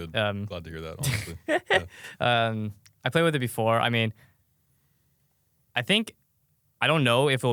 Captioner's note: laughs